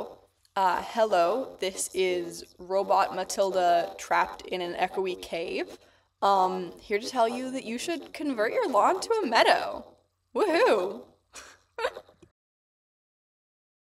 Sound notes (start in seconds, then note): 10.9 echo-ey laughter